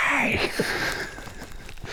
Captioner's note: laughing